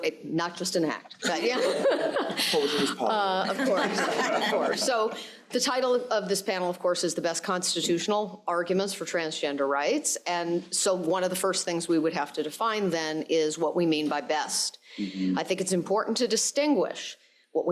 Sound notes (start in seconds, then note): 0.0 crowd laughing; 1.1 laughs; 4.5 crowd laughing